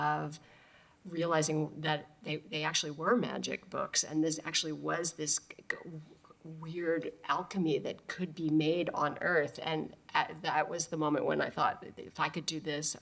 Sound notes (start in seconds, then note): none